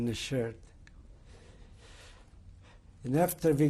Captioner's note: pauses for 3 seconds